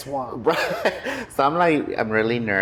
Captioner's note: laughing